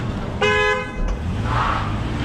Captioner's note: honk!!!